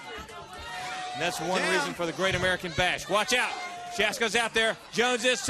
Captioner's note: crowd chatter